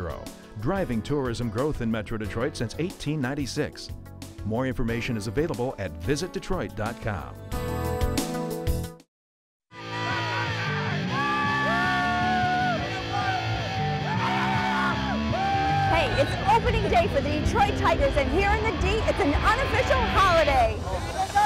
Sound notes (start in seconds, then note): 11.0 fans yelling